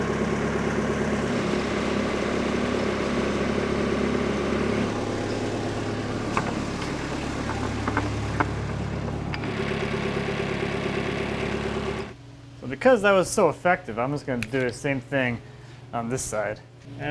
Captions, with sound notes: (skid-steer rumbling) (cabinet shaking) Well, because that was so effective. I'm just going to do the same thing on this side.